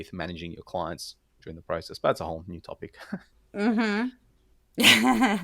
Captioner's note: laugh